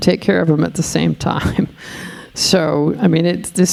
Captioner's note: chuckling